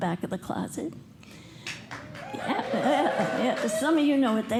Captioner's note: cheers and applause